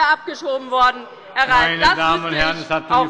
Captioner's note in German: Zurufe von der SPD